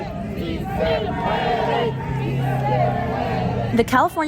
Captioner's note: protesters chanting